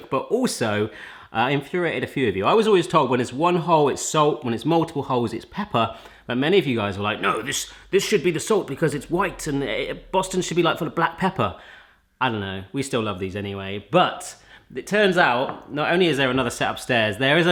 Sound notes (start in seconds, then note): none